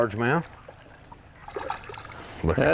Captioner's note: splash